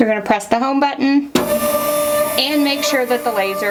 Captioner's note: machine whirs